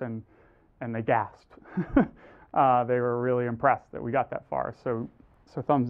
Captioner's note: laugh